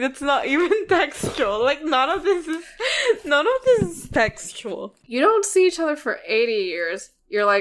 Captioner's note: laughs